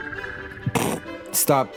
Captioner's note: snickers